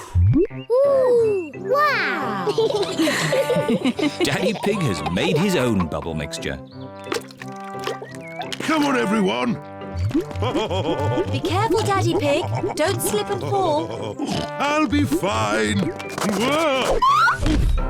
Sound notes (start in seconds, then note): 2.2 all laugh; 10.2 laughs